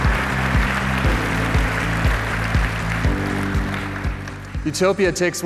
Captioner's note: applause